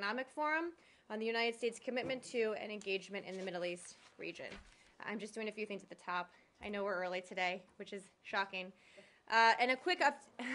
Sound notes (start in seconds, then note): 10.4 laughter